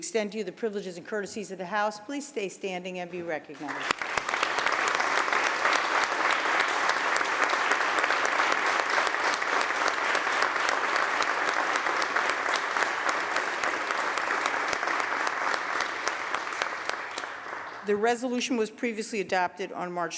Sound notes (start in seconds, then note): 3.5 applause